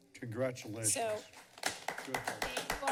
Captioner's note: applause